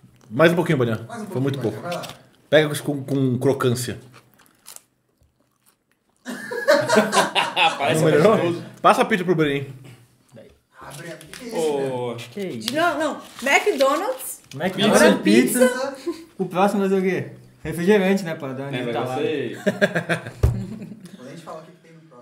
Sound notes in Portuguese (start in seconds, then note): 6.2 risos; 19.6 risos